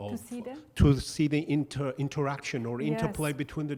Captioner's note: voiceover